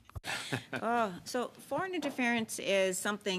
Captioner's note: speaking French